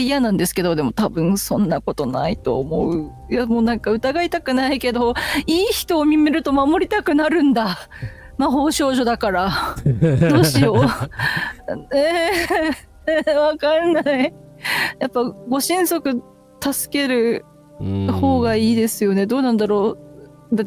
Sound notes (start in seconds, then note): 9.8 laughter